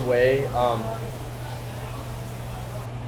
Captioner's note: chattering